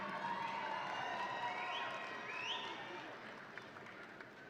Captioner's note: audience cheering